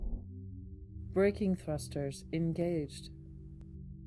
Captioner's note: computer Voice